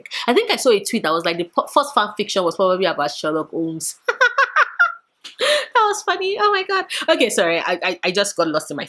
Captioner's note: laughs